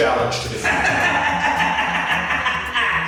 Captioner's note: laughs